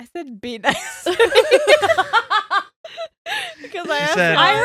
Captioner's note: laughing